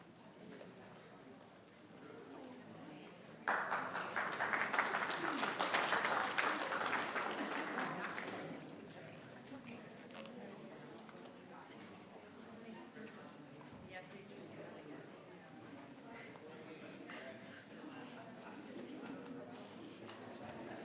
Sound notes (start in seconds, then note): 3.4 audience applauding; 14.6 faintly speaking; 17.6 members chattering